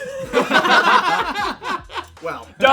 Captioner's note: laughter